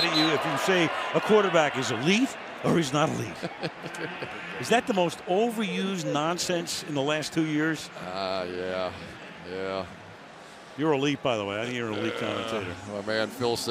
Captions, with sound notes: People get mad at you if you say, a quarterback is elite or he's not elite. [laughs] Is that the most overused nonsense in the last two years? Ah, yeah, yeah. You're elite, by the way. I think you're an elite commentator.